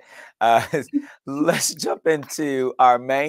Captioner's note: general laughter